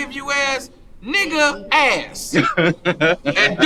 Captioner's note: man laughing